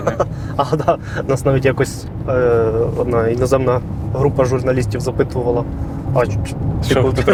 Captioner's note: laughs